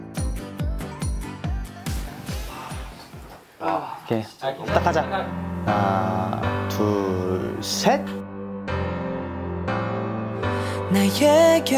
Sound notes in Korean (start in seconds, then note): 2.3 긴장한 숨소리